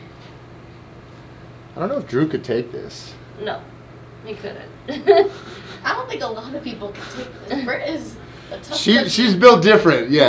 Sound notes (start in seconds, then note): 4.9 laughing